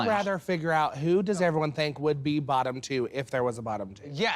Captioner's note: none